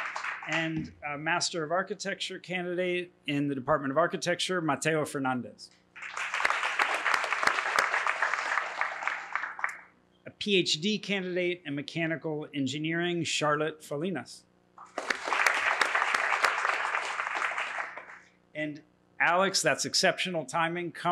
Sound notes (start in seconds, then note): 5.9 applause; 14.8 applause